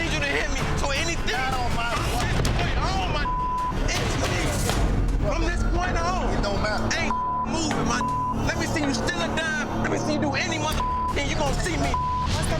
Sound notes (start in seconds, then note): 3.2 beep; 7.0 beep; 11.7 beep